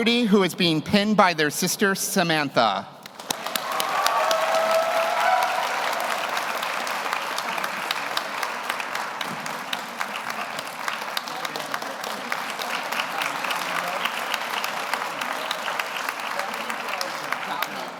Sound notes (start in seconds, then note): 4.4 audience applauds; 4.4 audience cheers